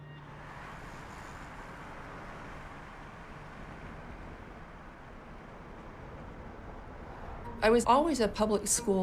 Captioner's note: traffic passing